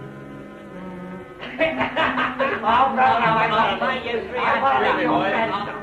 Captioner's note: drunken laughter and chatter